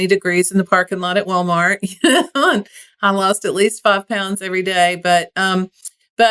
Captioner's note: laugh